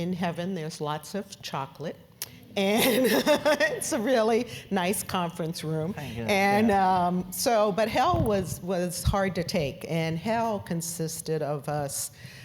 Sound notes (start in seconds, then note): 2.7 laugh